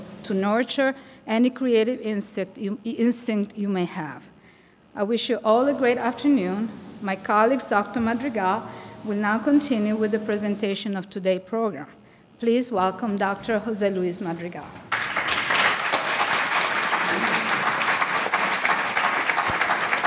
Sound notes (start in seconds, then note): 14.8 audience applauding